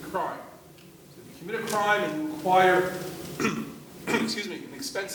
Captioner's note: coughing